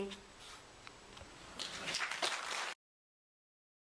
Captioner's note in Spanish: Aplausos